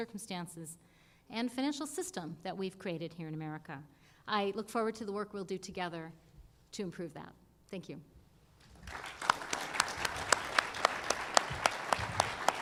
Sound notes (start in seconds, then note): 8.6 applause